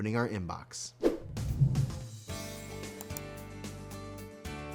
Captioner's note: rainbow whooshing; phone clicking